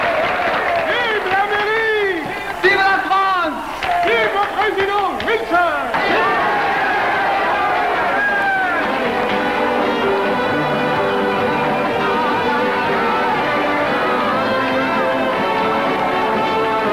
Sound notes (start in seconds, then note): 1.2 man speaking in foreign language; 6.2 crowd cheering; 8.5 bright rousing music